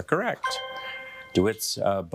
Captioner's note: bell dinging